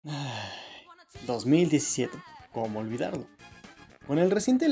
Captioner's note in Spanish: Suspiro